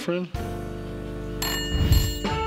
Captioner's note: whimsical music; telephone rings